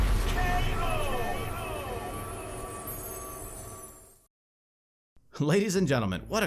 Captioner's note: voiceover